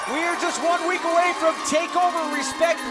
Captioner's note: crowd cheering